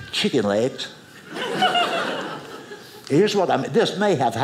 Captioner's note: audience laughing